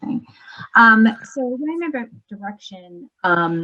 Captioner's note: voice scrambles